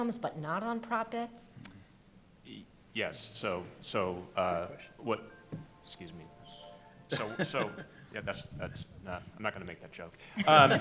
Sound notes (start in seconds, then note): 4.7 phone chimes; 10.3 laughter